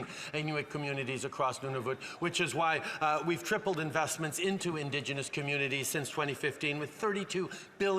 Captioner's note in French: voix de l'interprète